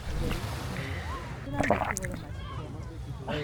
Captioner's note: gulp, gulp